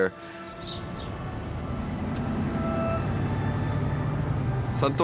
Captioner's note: engines revving